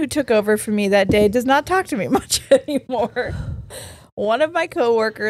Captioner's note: laughs